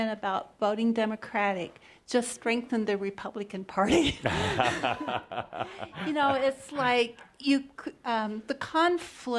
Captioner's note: Adamus chuckles